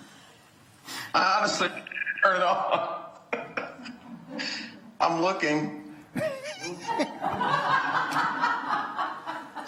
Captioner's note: laughter